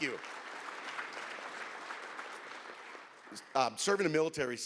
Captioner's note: audience applauds